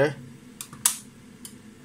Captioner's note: switch clicking